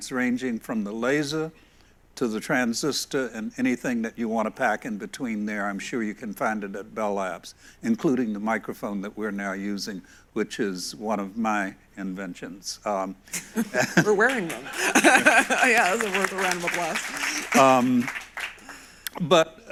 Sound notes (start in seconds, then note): 16.8 audience applauds